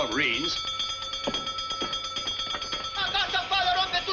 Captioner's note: bell Sounding